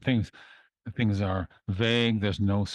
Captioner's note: speaking in French